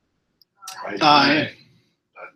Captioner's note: multiple voices